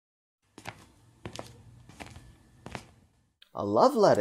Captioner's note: PONCE's footsteps approach RIZAL